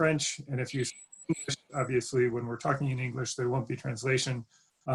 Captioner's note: glitch interferes with audio